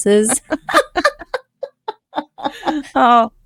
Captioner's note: laughing